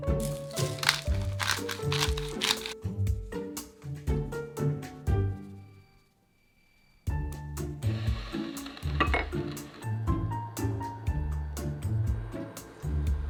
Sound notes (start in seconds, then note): 0.1 pepper cracking